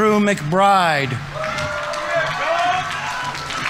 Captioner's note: audience members cheering; audience applauding